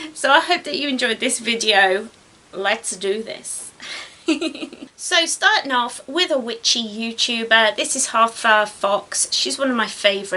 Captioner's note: giggles